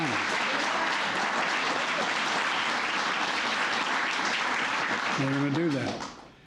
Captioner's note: applause